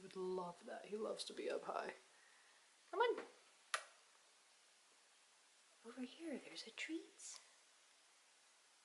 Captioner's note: mouth click